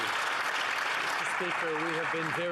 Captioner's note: some Applause